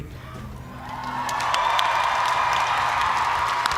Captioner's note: cheers and applause